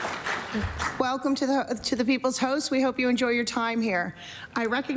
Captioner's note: applause